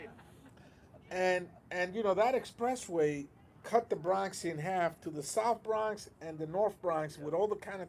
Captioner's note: laughter